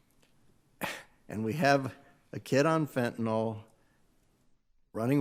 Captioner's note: chuckles